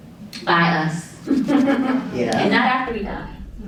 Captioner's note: audience chuckling